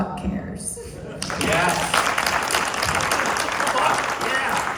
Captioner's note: applause